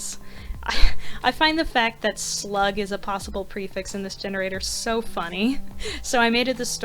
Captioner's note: laughing